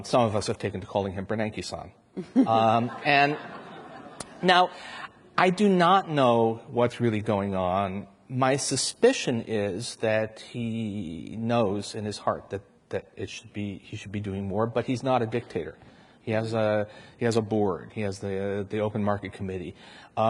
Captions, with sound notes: Some of us have taken to calling him Beranke-son. [audience laughs] Now, I do not know what's really going on. My suspicion is that he knows in his heart he should be doing more, but he's not a dictator. He has a board, he has the Open Market Committee.